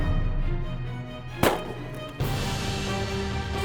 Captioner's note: gun shot